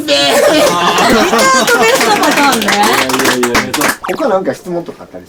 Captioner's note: mysterious applause